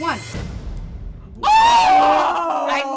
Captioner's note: all groan